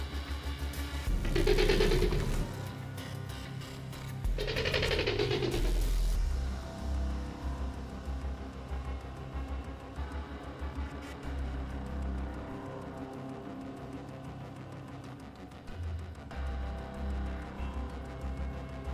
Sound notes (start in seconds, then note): 0.0 intense music; 1.1 Velociraptor chirping; 10.4 intense music